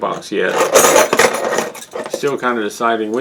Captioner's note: tools clattering